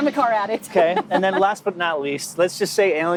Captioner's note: laughing